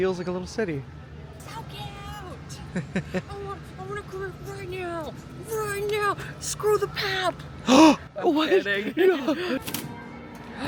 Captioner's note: gasps